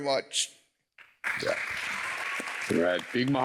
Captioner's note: applause